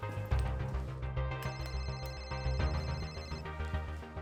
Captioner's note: phone ringing